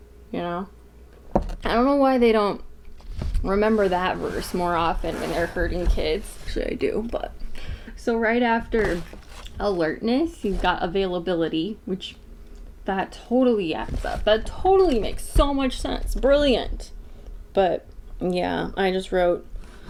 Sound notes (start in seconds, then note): 12.4 sarcasm; 18.8 sarcasm